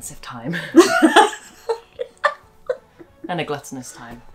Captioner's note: laughter